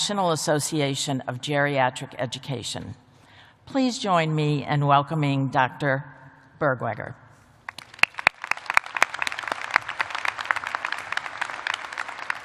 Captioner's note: applause